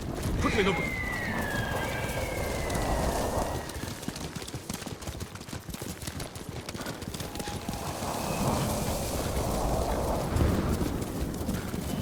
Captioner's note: whistling